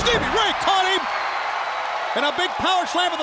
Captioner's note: crowd cheering